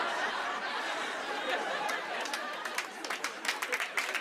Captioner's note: laughter; applause